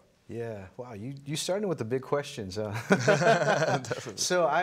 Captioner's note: both laughing